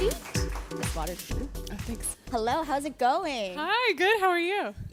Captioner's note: applause